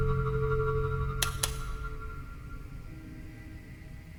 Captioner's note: button clicks